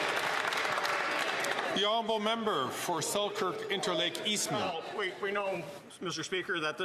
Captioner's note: some Applause